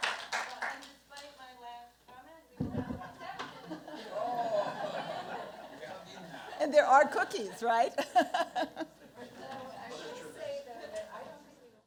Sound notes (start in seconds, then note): 2.6 laughter; 8.2 laughs